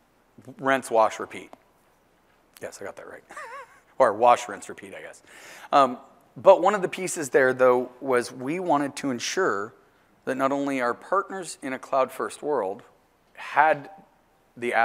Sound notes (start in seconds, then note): 3.2 laugh